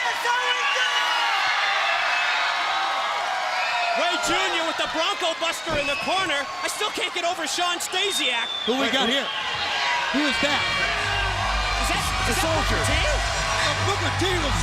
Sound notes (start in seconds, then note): 2.9 crowd chatter; 5.7 crowd cheering